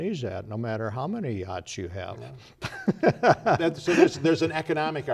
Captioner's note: laughter